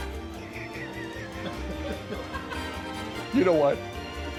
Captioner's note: laughing